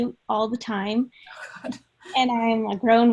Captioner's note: laughing